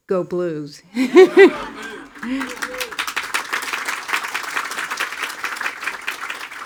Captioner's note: everyone laughing; attendees applauding